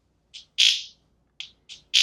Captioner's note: zap